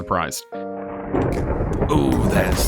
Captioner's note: thunder crashes